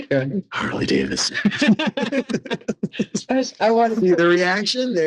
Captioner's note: laughing